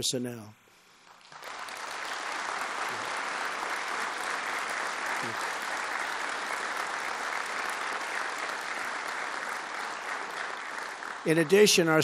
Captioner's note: applause